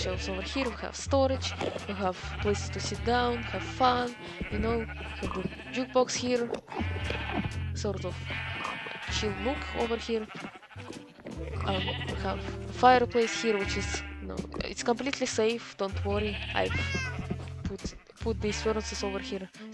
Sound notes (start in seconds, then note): 9.0 relaxing sheep sounds to study/relax